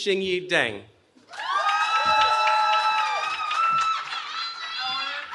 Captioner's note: cheering